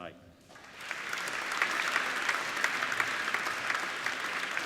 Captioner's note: applauding